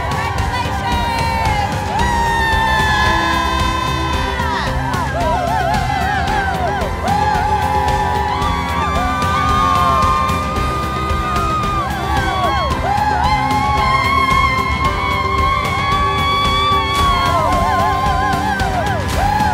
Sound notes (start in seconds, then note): 1.8 wild applause